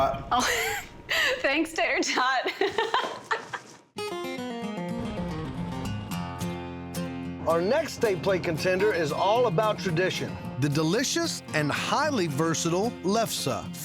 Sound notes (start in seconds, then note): 2.4 both laughing